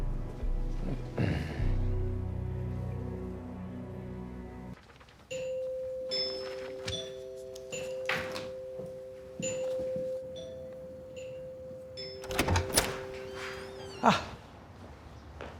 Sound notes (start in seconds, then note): 0.8 man clears throat; 4.1 door bell dinging